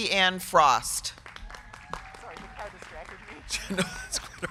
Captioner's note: crowd clapping; crowd cheering